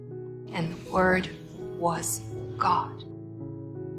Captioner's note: voiceover